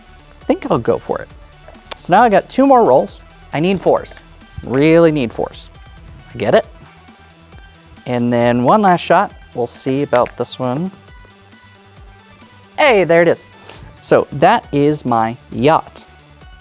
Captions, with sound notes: I think I'll go for it. So, now, I got two more rolls. I need 4's. (dice rattling) Really need 4's. (dice rolling) Get it. And, then, one last shot. We'll see about this one. (dice rattling) (dice rolling) Hey! There it is. So, that is my yacht,